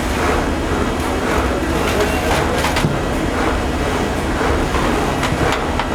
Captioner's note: machine whirring